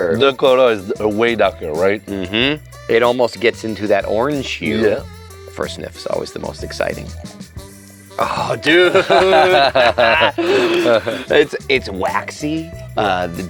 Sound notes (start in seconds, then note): 8.2 both laughing